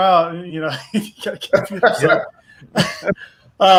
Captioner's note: laughs